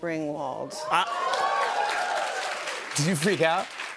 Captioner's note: cheers and applause